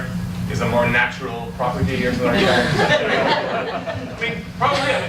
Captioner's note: audience laughs